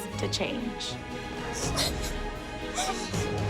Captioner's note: crying